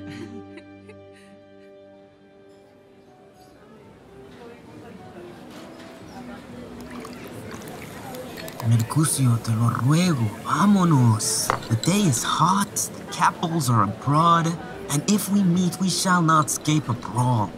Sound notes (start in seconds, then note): 3.4 faint music playing; 5.2 ambient chatter; 6.6 beverage pouring